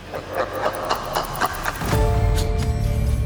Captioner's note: sinister laughter